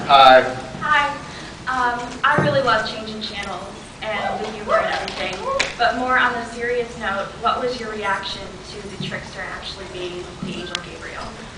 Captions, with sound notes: Hi. Hi. Um, I really love Changing Channels, and the humor and everything, [scattered cheers] but more on a serious note, what was your reaction to the Trickster actually being the angel Gabriel?